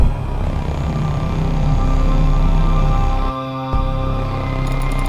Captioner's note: deep growl; music slows; ghostly female vocalization